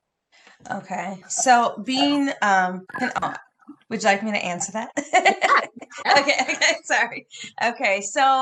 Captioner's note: laughs